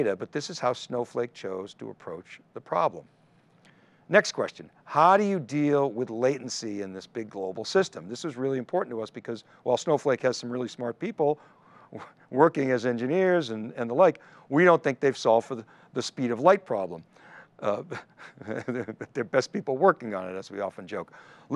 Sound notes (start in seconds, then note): 17.7 laughs